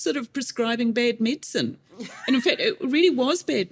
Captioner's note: laughs